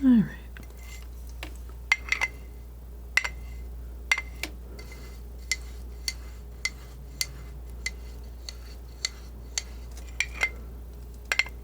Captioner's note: scratching